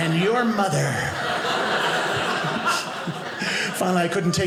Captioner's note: audience laughing